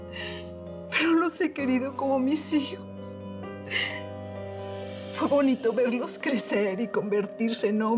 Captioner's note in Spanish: sollozos